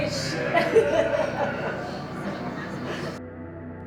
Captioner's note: laughs